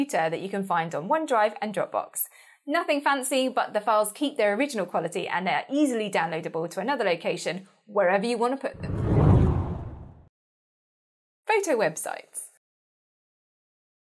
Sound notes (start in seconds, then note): 8.8 hard whooshing